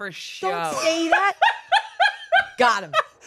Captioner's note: laughs